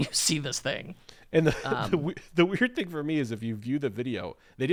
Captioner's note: chuckling